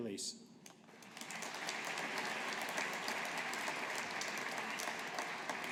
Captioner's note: audience applauding